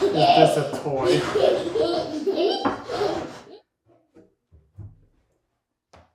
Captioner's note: child laughing